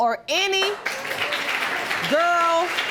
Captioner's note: audience applauding